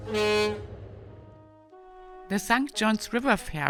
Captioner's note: boat horn booming